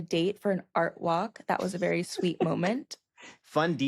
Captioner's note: laughs